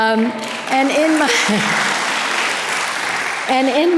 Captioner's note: audience applause